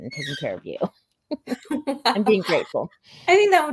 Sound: both laughing

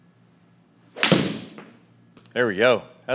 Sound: golf ball hitting

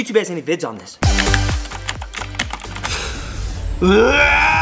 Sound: keyboard clicking

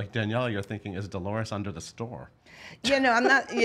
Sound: laughs

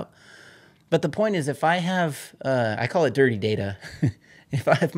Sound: laughs

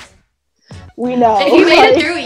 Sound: laughs

